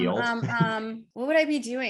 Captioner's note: laughs